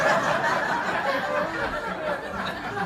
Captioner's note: laughter